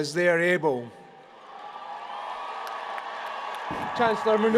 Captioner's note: applause